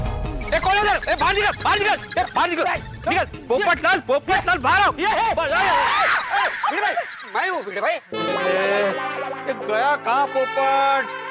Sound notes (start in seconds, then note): 5.6 screaming